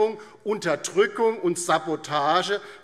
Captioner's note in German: none